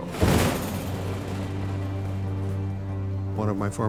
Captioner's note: plane whooshing